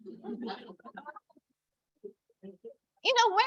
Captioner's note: audience laughing